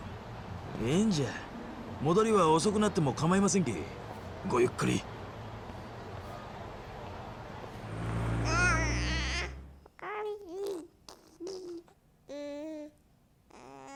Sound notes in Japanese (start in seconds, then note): 8.4 泣き声